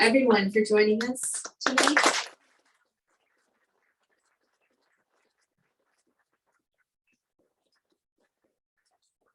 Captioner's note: clapping